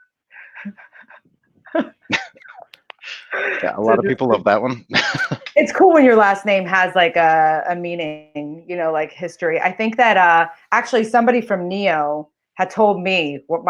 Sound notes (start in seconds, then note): 1.6 chuckles; 5.3 laughs